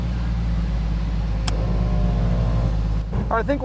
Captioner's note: engine starts; compressor hums